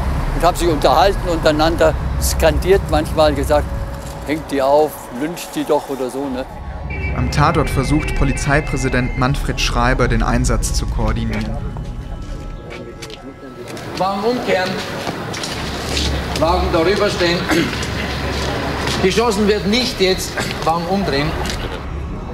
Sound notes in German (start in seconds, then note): 7.0 Sirene